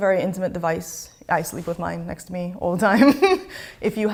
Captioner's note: chuckles